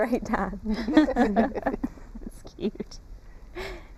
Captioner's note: laughter